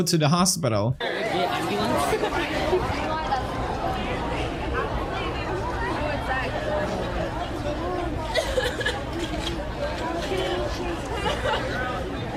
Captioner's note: loud talking